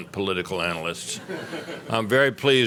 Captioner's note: laughter